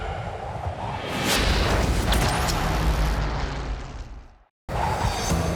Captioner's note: whooshing sounds